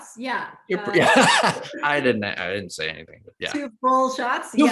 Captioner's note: laughs